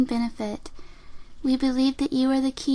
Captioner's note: unsettlingly sexual breath in